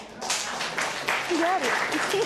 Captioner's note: applause